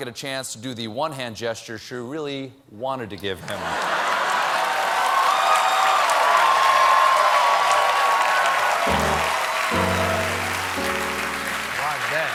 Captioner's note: cheers and applause